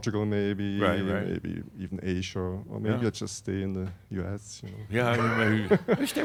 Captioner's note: he chuckles